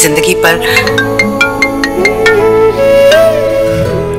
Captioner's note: Cell phone ringing